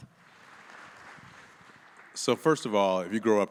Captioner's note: audience applauding